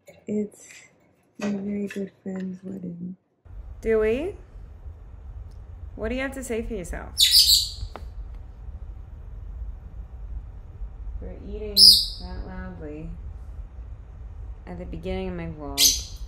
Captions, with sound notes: It's my very good friend's wedding. Dewey, what do you have to say for yourself? (Bird chirps) You're eating that loudly at the beginning of my vlog.